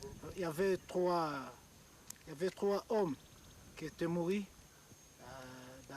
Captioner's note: speaking in a foreign language